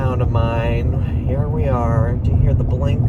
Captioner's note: turn signal clicking